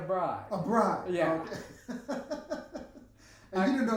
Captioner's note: laughing